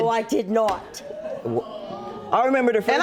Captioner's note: audience murmurs